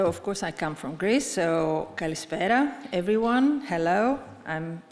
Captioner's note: speaks Greek